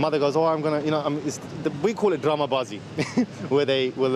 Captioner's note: speaking in foreign language